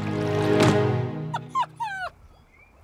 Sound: whimpering

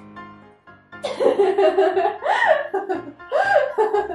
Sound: laughing

